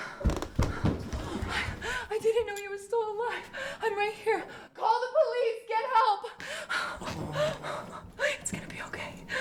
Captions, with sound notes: I didn't know you were still alive. I'm right here. Call the police, get help! (gasping) It's gonna be okay.